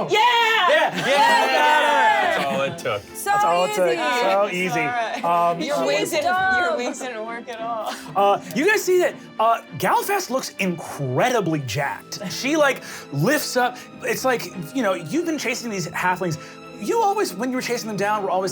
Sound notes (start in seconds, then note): 0.0 cheering; 5.8 overlapping chatter